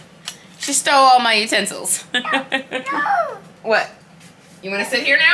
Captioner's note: laughs